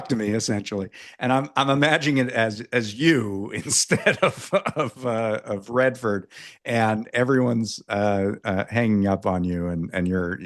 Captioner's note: laughs